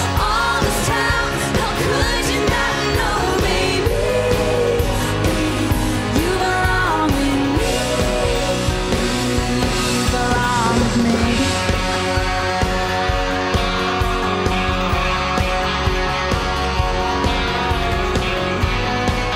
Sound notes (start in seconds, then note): 10.6 audience cheering; 11.8 upbeat music